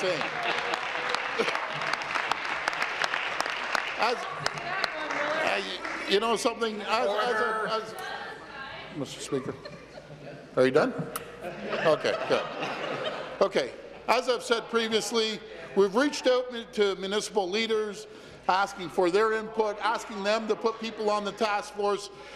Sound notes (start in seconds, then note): 5.9 applause